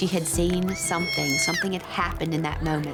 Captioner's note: screaming